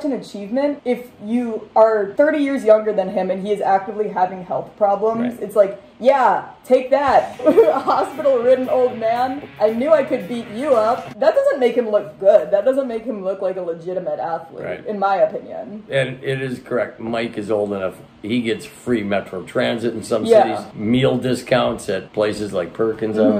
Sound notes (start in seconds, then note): 7.1 hardcore music; 7.2 laughing